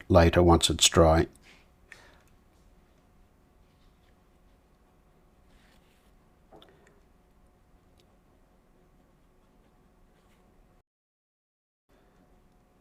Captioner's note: silence